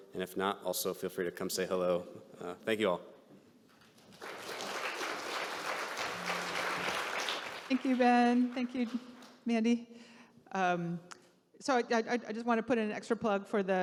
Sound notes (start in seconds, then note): 3.9 audience clapping